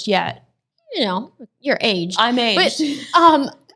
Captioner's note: laughs